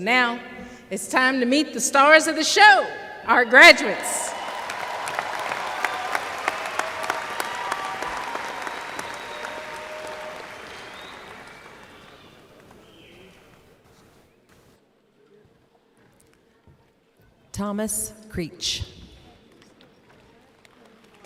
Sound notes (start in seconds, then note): 3.8 cheers/applause